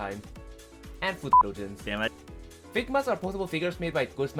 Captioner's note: beep